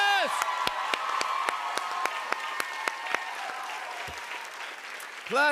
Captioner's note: cheers and applause